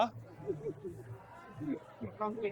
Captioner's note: giggles